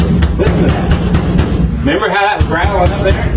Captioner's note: patting floor of car